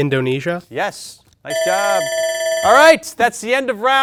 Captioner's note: alarm ringing